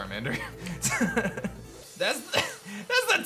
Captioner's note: chuckles